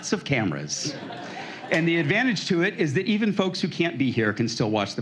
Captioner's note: laughter